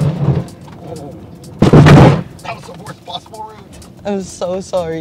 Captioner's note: crashing sounds